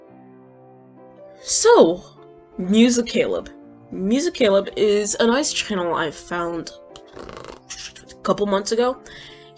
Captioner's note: mouth thinking sounds